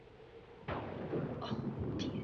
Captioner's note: thunder booming